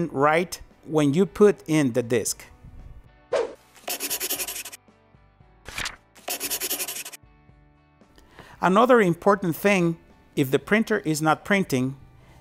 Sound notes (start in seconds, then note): 3.2 whooshing; 4.1 scribbling; 5.6 paper flipping; 6.2 scribbling